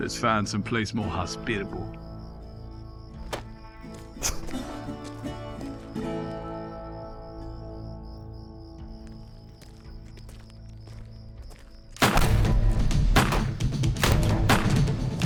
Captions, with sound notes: LET'S FIND SOMEPLACE MORE HOSPITABLE. [SPITS] [FOOTSTEPS] [GUNSHOTS]